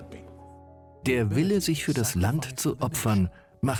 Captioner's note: voiceover